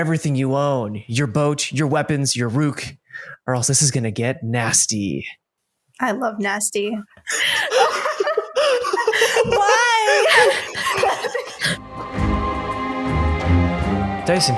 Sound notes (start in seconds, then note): 7.4 laughter